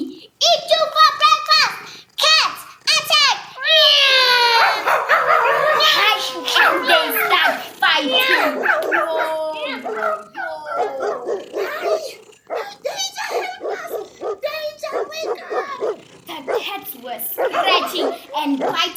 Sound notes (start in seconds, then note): 7.9 dogs barking and cats meowing with a lot of commotion